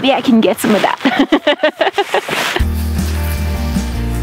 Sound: laughing; upbeat music

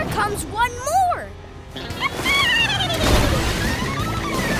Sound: dolphin clicking

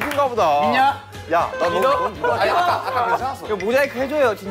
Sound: crying

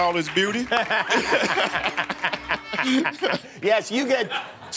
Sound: laughter

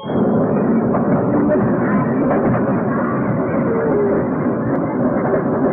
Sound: train rumbling

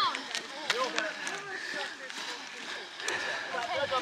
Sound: heavy breathing and panting

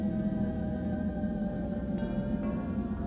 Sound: none

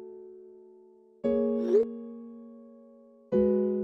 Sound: phone Notification

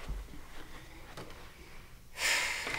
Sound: David sighs

